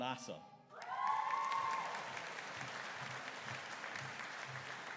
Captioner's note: audience cheering